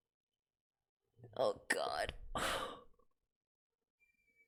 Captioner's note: breathes